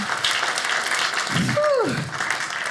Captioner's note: audience cheers